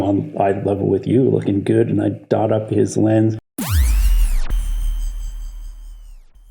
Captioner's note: electric whoosh